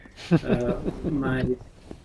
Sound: background chuckle

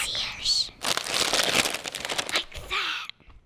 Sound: bag crinkling

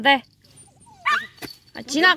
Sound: crying

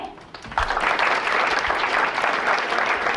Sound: applause

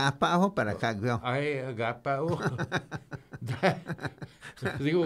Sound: laughing

